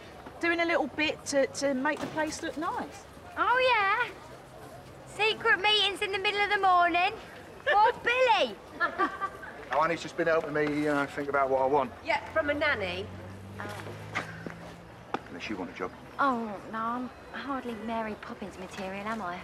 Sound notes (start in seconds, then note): 8.7 Honey laughs